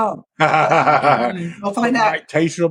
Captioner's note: laughing